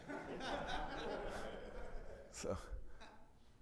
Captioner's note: attendees laughing